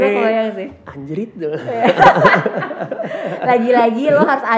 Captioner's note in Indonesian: tertawa